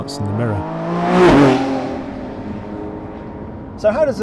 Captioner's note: car roars past